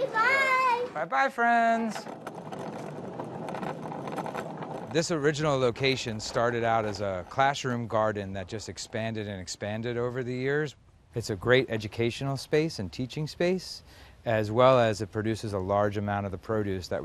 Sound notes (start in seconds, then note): 2.1 wheels rattling